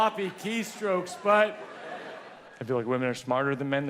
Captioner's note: audience laughs